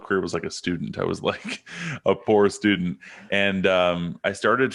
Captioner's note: chuckles